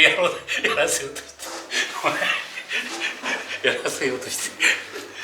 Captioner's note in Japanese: 笑い